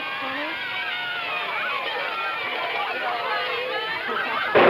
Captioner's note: children cheering